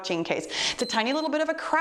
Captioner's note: timer beeps